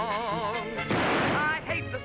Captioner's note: gunshot